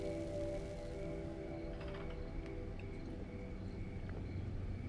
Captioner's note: crickets chirping